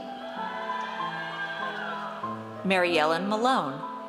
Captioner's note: audience cheers